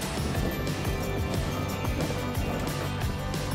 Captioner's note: wheels rolling